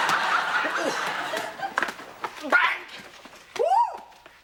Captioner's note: exclaiming